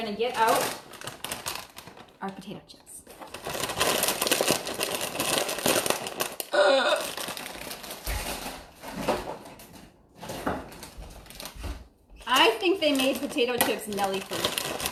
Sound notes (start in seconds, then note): 3.3 chips rattling; 6.8 wrapper rustling